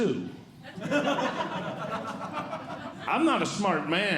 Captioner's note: audience Laughing